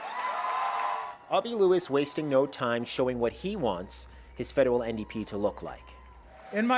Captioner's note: applause